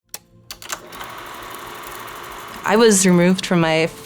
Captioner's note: film rolling